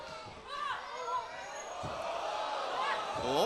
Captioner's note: crowd chatter